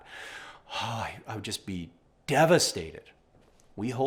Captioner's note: sighs